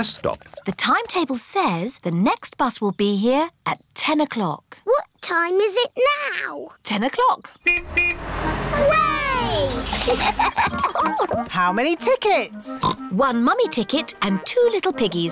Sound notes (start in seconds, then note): 7.6 horn honks; 12.8 oinks